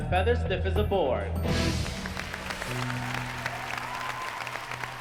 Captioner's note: applause